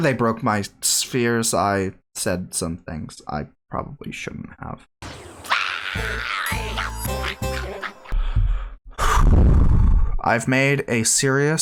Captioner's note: Shape Japer swearing